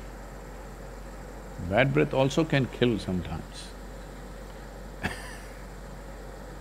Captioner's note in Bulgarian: Смях